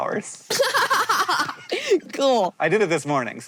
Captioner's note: laughs